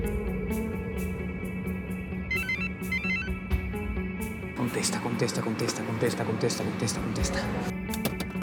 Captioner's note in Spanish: Suena el teléfono